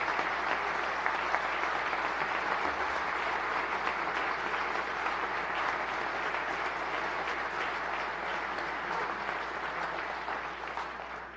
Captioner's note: applause